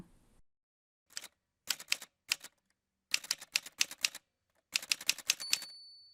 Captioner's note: typewriter sounds